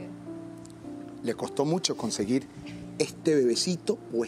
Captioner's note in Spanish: none